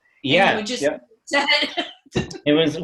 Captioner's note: laughs